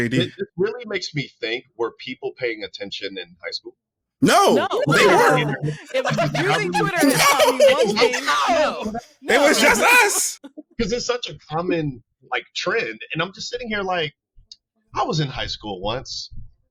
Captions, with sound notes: It really makes me think, were people paying attention in high school? No, they were. (laughing) It was just us. Cause it's such a common like trend. And I'm just sitting here like, I was in high school once.